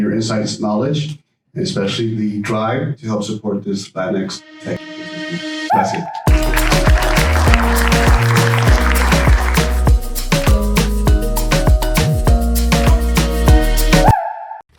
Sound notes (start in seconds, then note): 10.2 applause